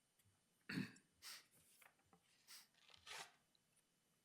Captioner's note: throat clearing